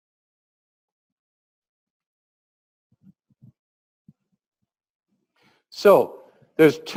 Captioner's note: pause